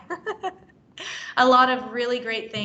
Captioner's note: laughs